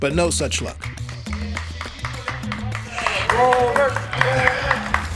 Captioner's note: people applauding